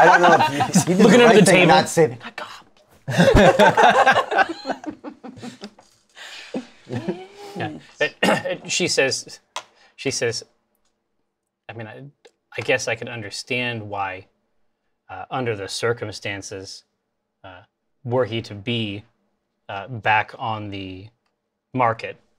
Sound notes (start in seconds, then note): 2.1 whispers; 3.0 laughter; 6.9 whispers